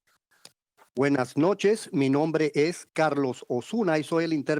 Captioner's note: foreign language